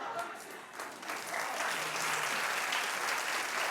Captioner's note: laughing; clapping